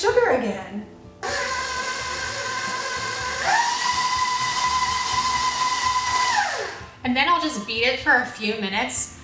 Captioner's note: blending